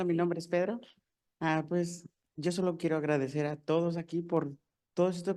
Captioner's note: speaking in foreign language